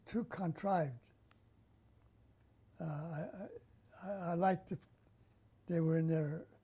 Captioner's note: pauses for 3 seconds